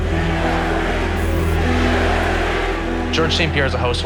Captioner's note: crowd chanting "GSP! GSP!